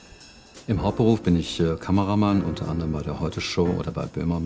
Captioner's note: German